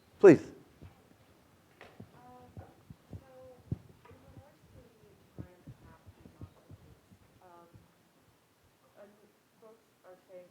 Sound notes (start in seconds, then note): 2.4 student speaking faintly